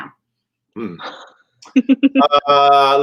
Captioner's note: laughter